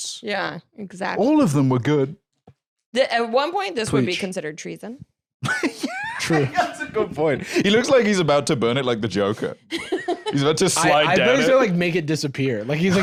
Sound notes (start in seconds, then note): 5.5 laughing